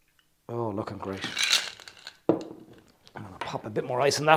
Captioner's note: ice clinking